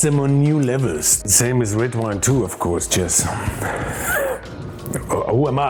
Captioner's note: laughs